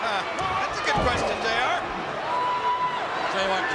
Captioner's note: laugh